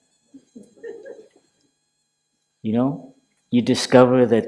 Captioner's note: laughter